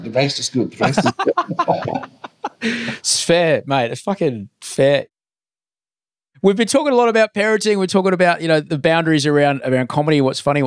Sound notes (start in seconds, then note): 0.8 laughing